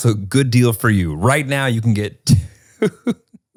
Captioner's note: laughs